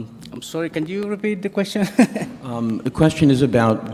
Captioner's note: laughing